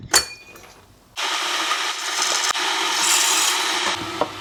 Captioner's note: coffee grinding